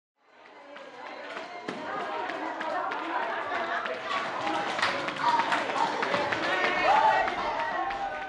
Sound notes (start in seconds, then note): 2.0 group chattering; 2.0 jump ropes thudding